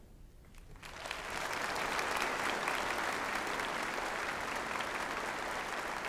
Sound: applause

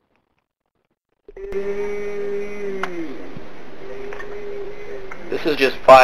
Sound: moaning; voiceover

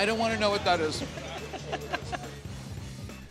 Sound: chuckles

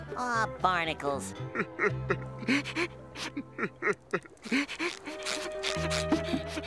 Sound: crying

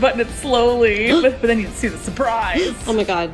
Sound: gasps

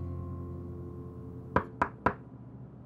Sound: knocks

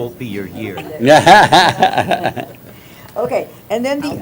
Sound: laughter

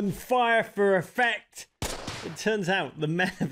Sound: gunshots; chuckling

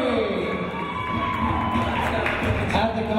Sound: cheering

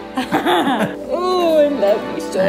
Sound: laughing

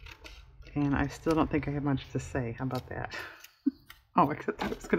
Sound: laughs

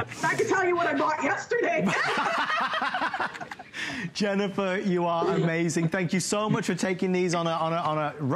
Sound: laughter

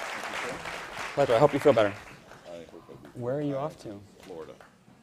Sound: applause

